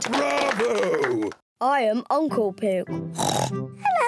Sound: in deep voice; oinks

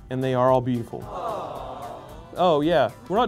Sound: background Crowd

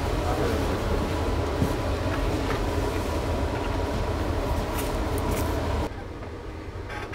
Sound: muffled whirring; footsteps; metallic squeaking and clanking

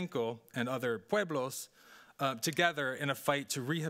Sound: speaking Spanish

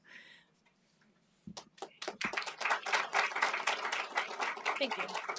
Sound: applause

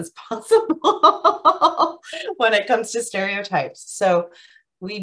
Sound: laughs

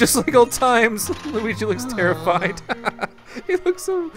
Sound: laughter

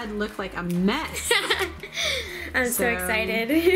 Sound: laughs

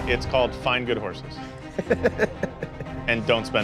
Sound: laughs

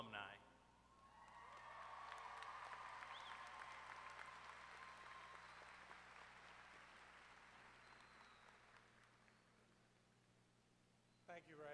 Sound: applause

